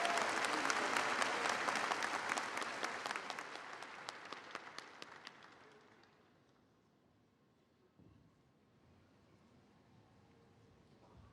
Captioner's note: applause